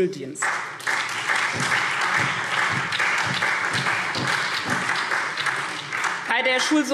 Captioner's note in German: Beifall SPD